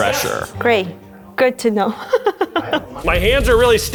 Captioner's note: laughs